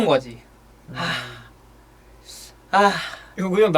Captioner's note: sigh containing many thoughts